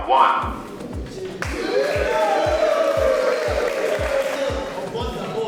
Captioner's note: applause